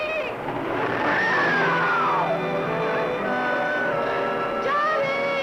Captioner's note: dramatic music; Mora screaming